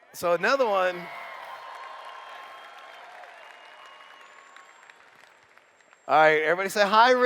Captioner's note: cheers